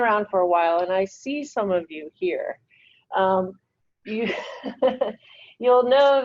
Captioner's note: laughs